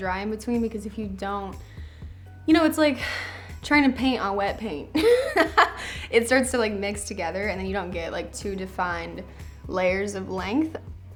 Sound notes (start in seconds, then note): 5.0 laughs